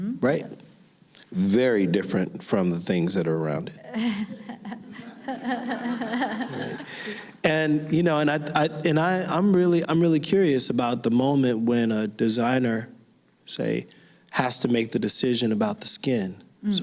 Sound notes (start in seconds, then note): 3.8 laughing